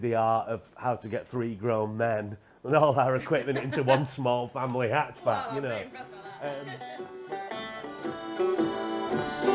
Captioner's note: laughter